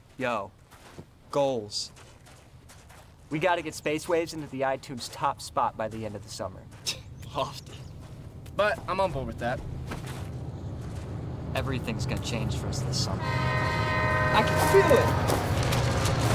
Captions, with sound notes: Yo, goals. We got to get Space Waves into the iTunes top spot -by the end of the summer. -[scoffs] Lofty. But I'm on board with that. Everything's going to change for us this summer. [train horn blares] I can feel it.